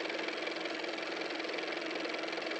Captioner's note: car motor